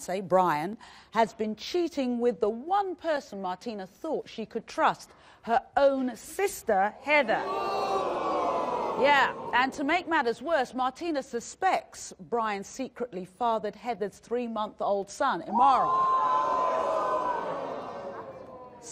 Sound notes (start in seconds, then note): 7.3 audience boos; 16.1 audience boos and gasps